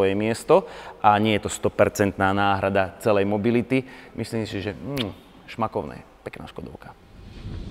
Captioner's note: kiss